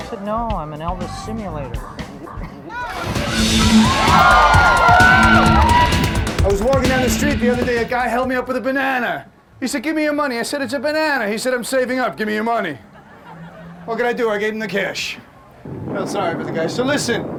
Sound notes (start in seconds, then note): 2.8 audience cheering; 2.8 thrilling music